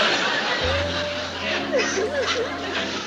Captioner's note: sobbing